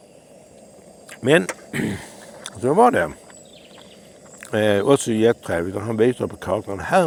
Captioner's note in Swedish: harklar sig